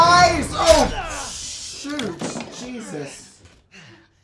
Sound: knife drops on ground

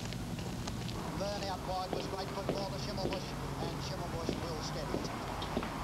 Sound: horse racing playing on radio

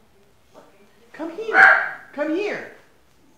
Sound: dog Barking!

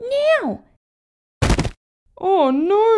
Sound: thud!

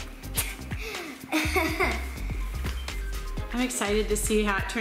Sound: laughs

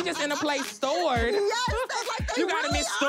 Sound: laughs

